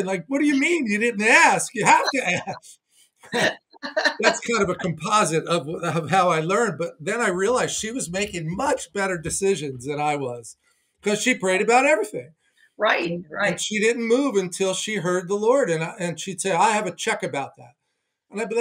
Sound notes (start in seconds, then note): 3.1 both laughing